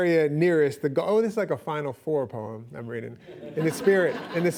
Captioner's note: laughing